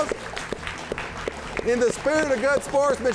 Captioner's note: all applauding